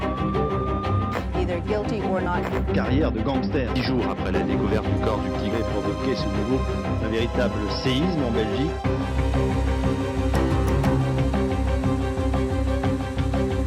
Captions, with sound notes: (sirens wailing) - Either guilty or not guilty. (speaks in foreign language) (fast-paced dramatic music)